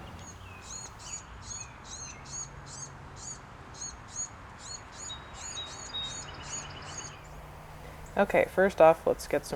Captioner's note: bird chirping